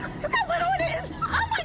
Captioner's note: laughs